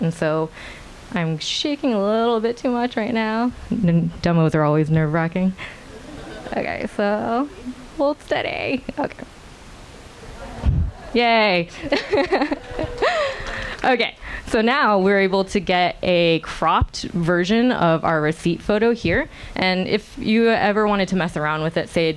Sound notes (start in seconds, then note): 11.7 laughs; 12.3 audience applauding